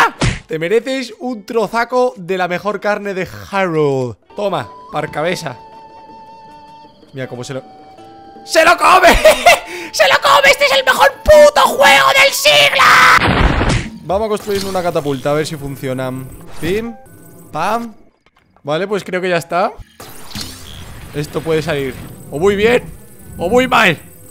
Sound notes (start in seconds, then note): 13.2 explodes